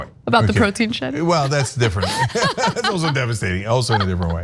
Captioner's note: laugh